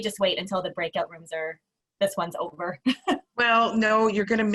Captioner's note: laughs